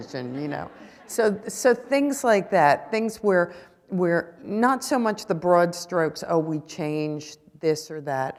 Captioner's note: laughter